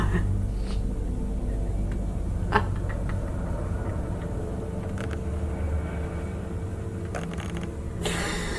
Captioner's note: laughter